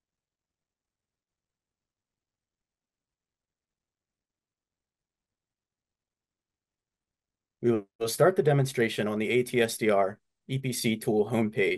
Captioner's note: silence